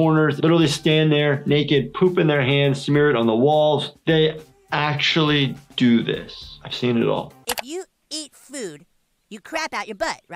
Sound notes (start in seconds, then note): none